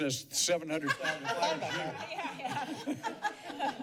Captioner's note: laughter